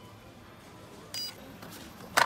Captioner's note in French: bip